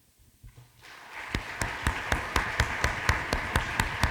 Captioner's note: applause